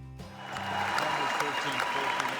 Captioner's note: crowd cheering